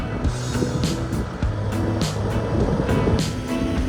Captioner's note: van engine idling